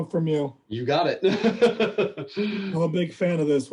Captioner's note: laughter